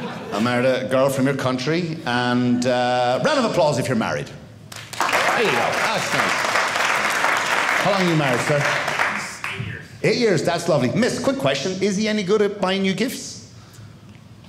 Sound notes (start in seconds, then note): 0.0 audience laughing; 4.7 audience applauding